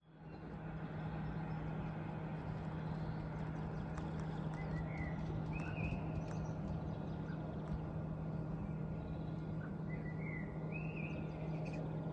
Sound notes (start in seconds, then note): 2.2 birdsong